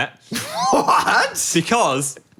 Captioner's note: laughs